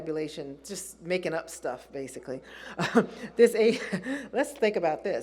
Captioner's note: laughs